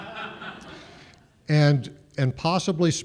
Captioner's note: laughter